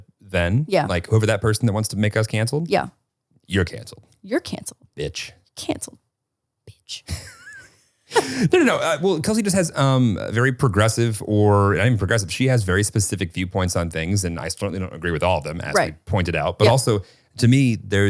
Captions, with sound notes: - No, and if we were to have been canceled for anything that we said then, like over that person that wants to make us canceled, you're canceled. - You're canceled. - Bitch. - Canceled, bitch. (chuckling) - No, no, no, well Kelsey just has very progressive, or not even progressive, she has very specific viewpoints on things and I certainly don't agree with all of them as you pointed out, but also to me,